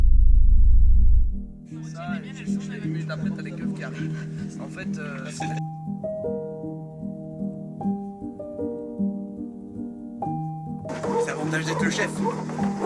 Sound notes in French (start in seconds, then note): 1.8 personnes discutent; 5.4 musique douce